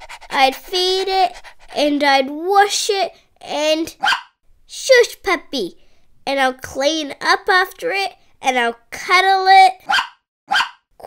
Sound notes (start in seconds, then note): 0.0 dog panting; 4.0 bark; 10.5 bark